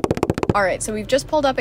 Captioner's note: feet Running Sound